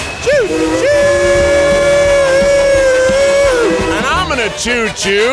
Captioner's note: train whistle piercing